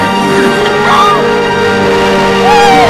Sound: whimpers

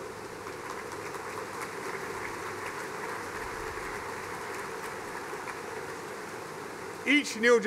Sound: applause

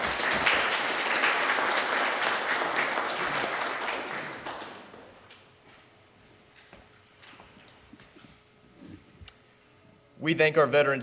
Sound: applause

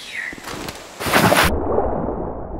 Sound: water splash

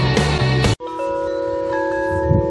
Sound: wind chime

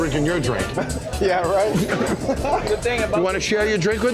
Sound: laughing

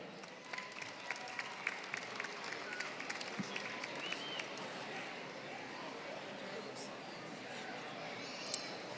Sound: applause

